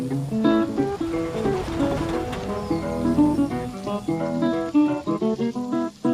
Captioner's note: truck rushing past; subtle bluegrass music